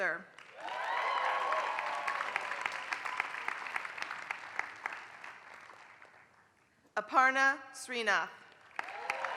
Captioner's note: applause; applause